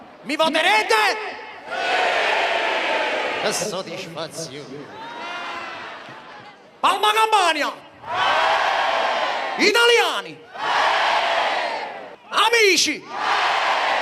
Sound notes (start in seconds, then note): 1.7 crowd; 8.0 crowd cheers; 13.1 crowd cheers